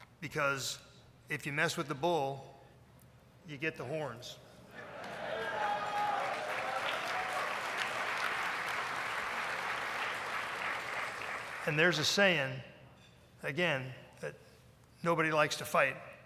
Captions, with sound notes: Because if you mess with the bull you get the horns. (applause) And there's a saying, again, that nobody likes to fight.